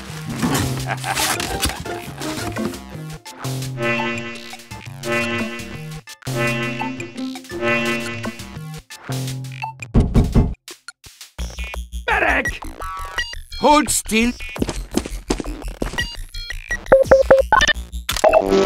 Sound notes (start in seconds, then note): 0.4 chuckles to himself evilly as he finishes the Charge; 9.7 knock, knock, knock